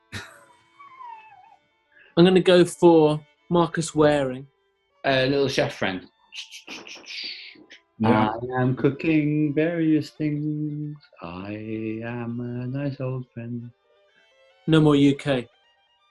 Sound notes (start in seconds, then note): 0.2 sniggering; 6.4 chopping sound effect